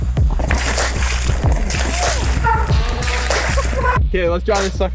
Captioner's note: water splashes